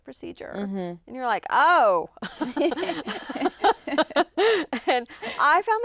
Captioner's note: chuckles